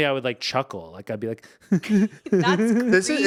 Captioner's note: giggling